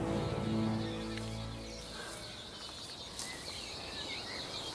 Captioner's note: birds chirping